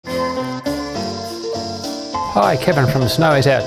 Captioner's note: soft jingles